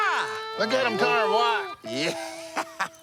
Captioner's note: laughing